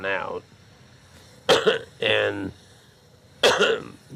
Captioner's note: coughing